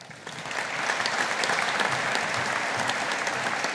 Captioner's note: audience applauding